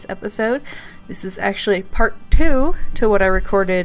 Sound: hits mic

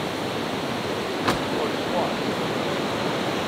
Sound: water rushing

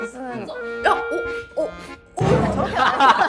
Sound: smelling

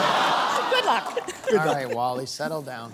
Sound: applause; laughter

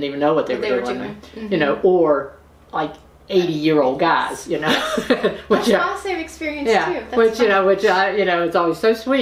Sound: laughter

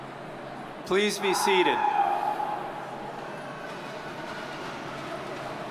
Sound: audience member cheers

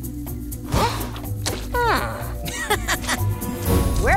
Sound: chuckles

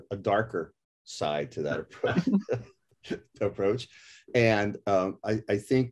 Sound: laugh

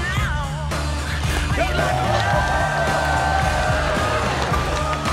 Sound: cheering

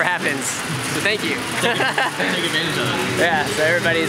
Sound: laughs

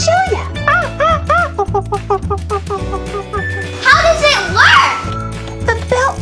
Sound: monkey calling

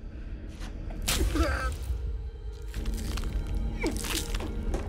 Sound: male grunting

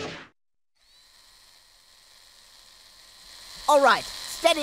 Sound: whirring

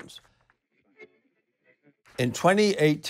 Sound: digital blip

